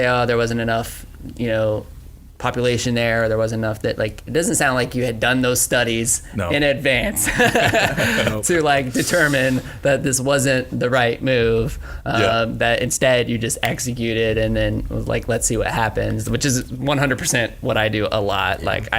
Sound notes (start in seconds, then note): 7.0 laughs